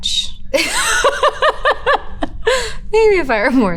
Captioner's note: Elizabeth laughs